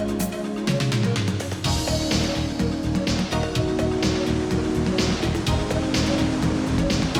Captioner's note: water rushing